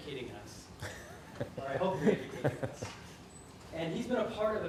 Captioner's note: offscreen laughter